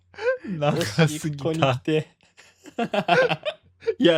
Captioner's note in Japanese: 笑い